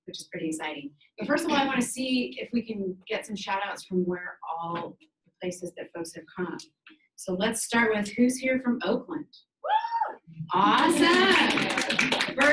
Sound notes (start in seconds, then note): 9.9 woman shouting; 10.6 audience applauding